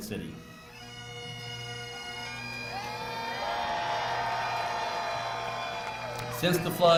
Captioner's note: cheering, bagpipes